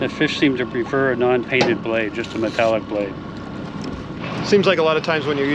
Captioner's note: none